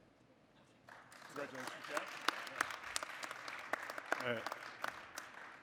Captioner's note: audience applauding